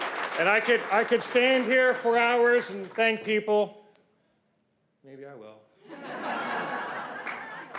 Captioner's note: applause